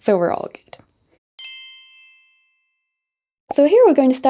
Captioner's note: bell dings